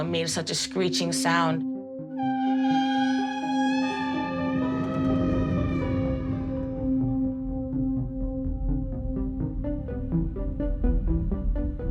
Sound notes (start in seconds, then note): 3.4 screeching